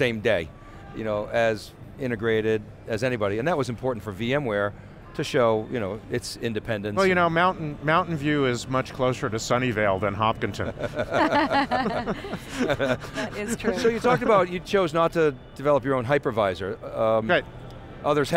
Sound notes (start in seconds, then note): 10.7 laughing